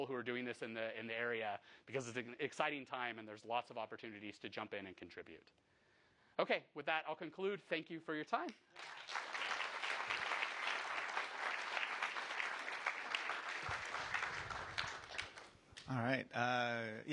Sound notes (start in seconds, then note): 8.7 applause